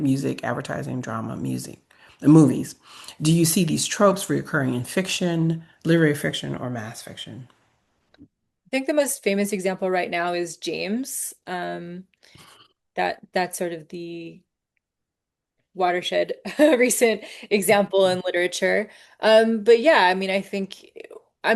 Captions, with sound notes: music, advertising, drama, music, and movies. Do you see these tropes reoccurring in fiction, literary fiction, or mass fiction?" - I think the most famous example right now is "James," that's sort of the watershed (chuckles) recent example in literature. But yeah, I mean, I think,